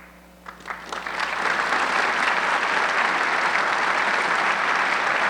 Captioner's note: audience clapping